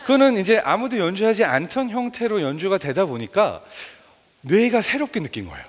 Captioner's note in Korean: none